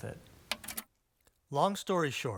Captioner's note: button clicks